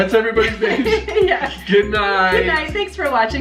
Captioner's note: laughs